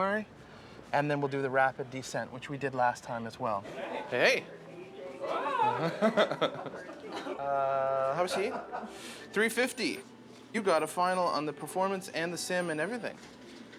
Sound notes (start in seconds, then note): 5.4 laughing